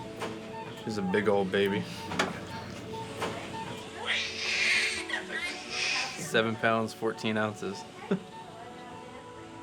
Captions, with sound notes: She's a big 'ol baby, [baby crying] 7 pounds, 14 ounces [laughs].